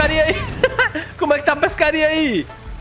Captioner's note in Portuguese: risos